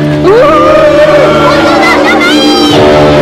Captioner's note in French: huée de la foule